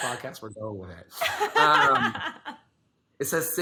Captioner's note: laughs